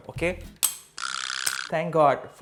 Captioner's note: cling sound